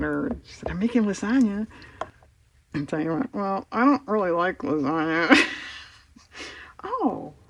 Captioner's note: laughs